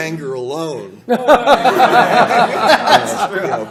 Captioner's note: laughter